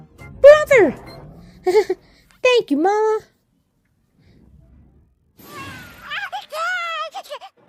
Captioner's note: Komasan giggles